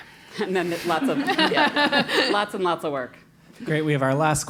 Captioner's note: laugh